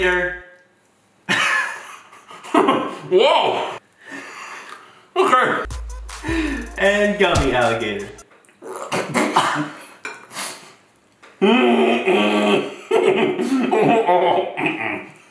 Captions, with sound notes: (laughing) - Okay. - And gummy alligator. (laughing)